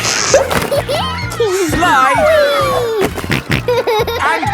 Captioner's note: giggles; snorting